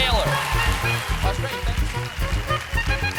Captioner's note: applause